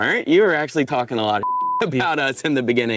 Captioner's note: beep